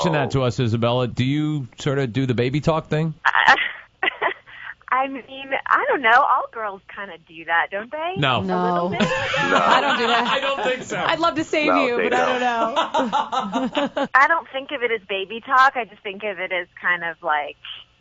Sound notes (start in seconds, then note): 4.1 chuckles; 8.8 laughs